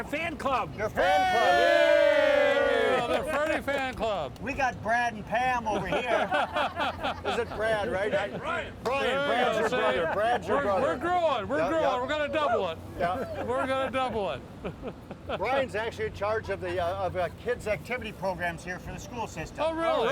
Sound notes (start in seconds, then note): 0.9 cheering; 5.8 laughing